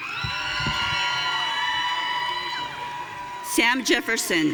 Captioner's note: audience cheering